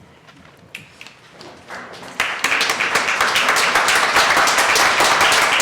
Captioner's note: applause